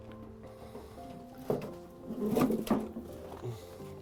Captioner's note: heavy stone sliding onto ground